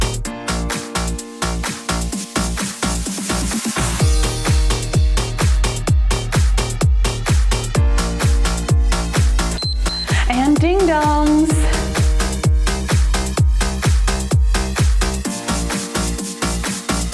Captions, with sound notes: (timer beeps) And ding dongs. (cheerful music)